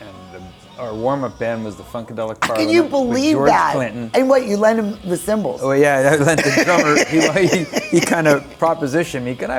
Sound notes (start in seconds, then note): 6.0 laughs; 6.3 chuckles